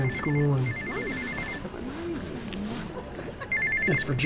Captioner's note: cell phone ringing